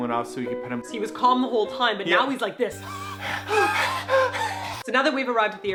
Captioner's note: panting noises